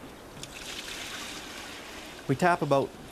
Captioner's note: liquid pouring